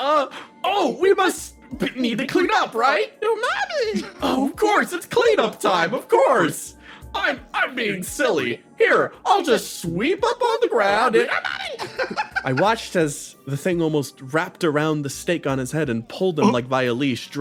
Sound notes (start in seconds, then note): 11.6 laugh